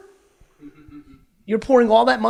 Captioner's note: man laughs